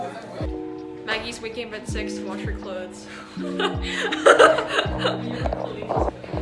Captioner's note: laughs